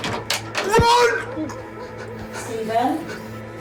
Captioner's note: Steven shouts